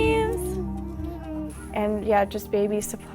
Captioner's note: baby cooing